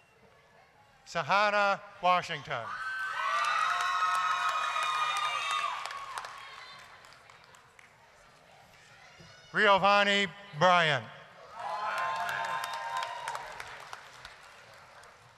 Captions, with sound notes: SAHANNAH WASHINGTON... (applause, cheering) RIOVANNI BRYANT... (applause, cheering)